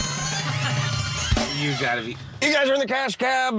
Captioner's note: alarm sounds, bells ring